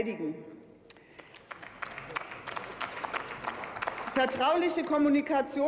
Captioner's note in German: Beifall